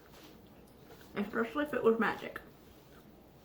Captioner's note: mouth full